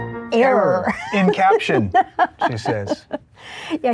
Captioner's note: laughing